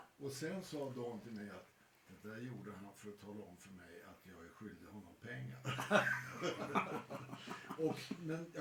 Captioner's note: laughter